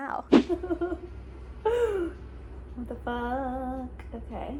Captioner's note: laughs